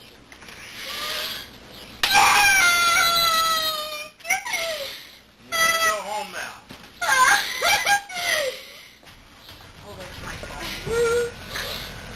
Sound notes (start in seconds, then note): 1.9 yelling